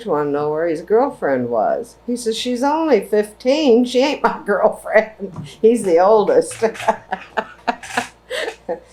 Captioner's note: laughs